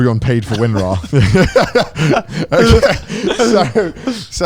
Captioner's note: speakers laughing